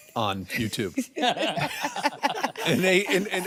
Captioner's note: all laugh